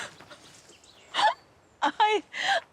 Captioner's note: Luna laughs